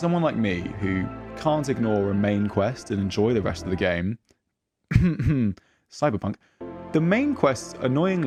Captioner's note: cough cough